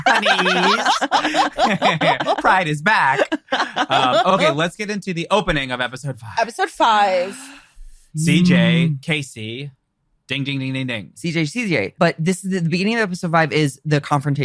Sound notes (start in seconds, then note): 0.0 laughs; 5.9 all laughing